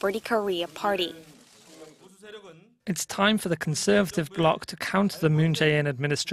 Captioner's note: Korean